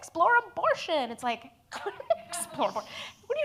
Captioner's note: laughs